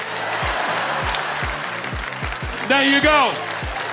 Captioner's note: audience laughing